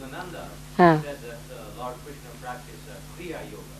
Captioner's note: Shri Mataji chuckles